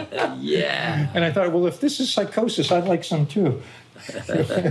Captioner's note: laughing